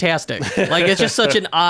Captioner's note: laughing